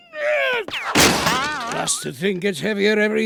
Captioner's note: crashing